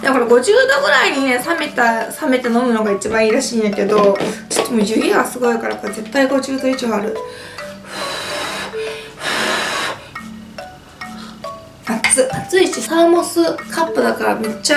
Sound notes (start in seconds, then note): 7.2 blows